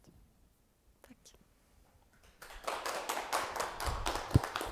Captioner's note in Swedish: applåder